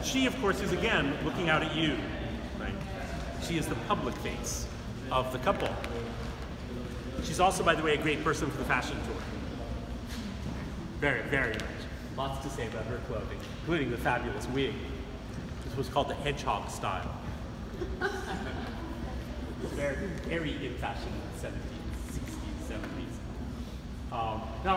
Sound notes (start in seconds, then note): 17.7 laughs